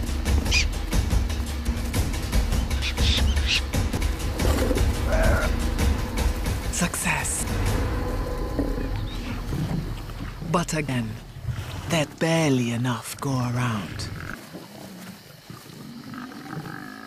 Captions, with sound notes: Success! (growling) But again, there's barely enough to go around.